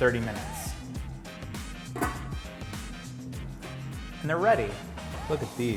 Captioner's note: jazzy music; pan lid clicks